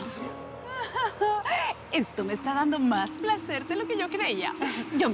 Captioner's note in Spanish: Risa nerviosa